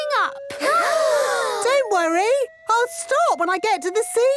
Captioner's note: children gasp